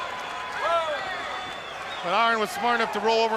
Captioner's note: crowd chatter